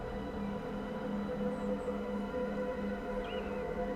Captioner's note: none